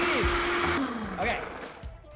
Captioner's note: blender stops